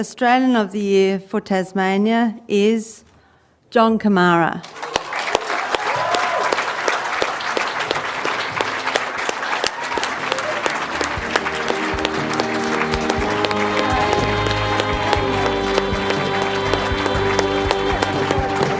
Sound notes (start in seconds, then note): 6.1 cheering and applause